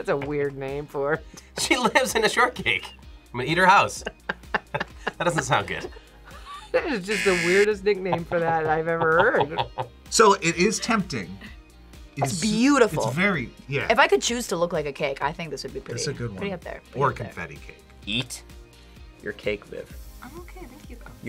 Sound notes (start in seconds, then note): 4.0 both laugh; 7.1 buzzer